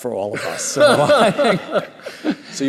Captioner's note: laughter